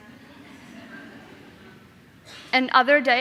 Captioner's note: audience laughing